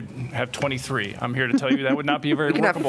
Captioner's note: laughter